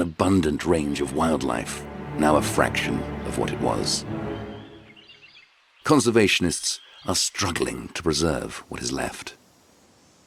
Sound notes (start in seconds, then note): 3.5 birds chirping